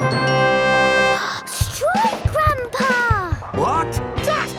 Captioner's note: gasps